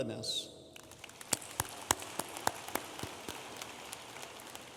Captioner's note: audience applauding